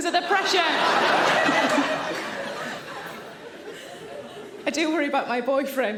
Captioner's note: audience laughing